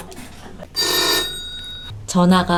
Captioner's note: ring